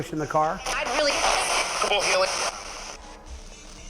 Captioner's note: spirit box voice